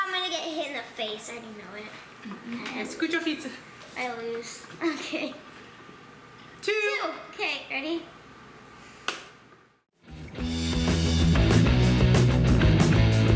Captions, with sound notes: - Oh, I'm gonna get hit in the face. I know it. - Scoot your feet. - I lose. Okay. (laughs) - Two! - Two. - Okay, ready? (clicks) (upbeat music)